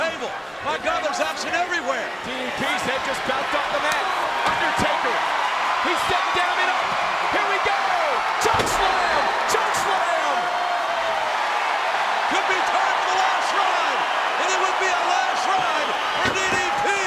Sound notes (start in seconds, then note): 10.1 crowd cheering; 12.3 presenter speaking faintly off mic